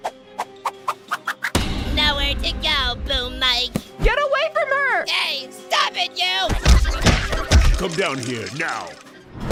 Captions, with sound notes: NOWHERE TO GO, BOOM MIC! GET AWAY FROM HER– HEY, STOP IT YOU! [GRUNTING, FIGHTING] COME DOWN HERE, NOW!